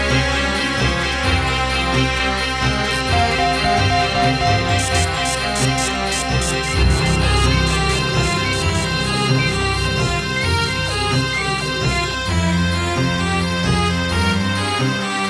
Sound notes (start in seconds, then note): 2.9 intense music; 3.1 electronic beeps; 10.2 intense music; 10.2 life-signs monitor beeps